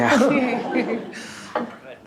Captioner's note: laughter